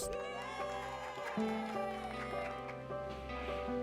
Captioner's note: group cheers